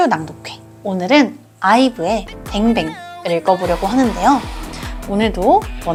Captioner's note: Bang Bang